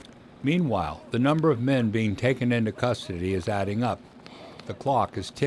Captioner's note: voiceover